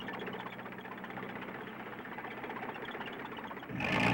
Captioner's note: engine growling